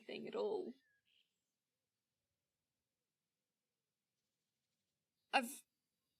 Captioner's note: a pause